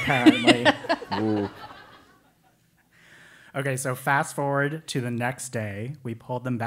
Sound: laugh

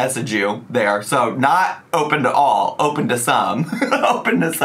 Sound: laughs

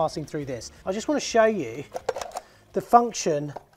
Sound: cover snaps

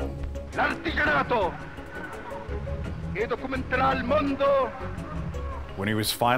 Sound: yelling in Italian

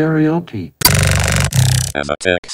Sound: Geth Noises

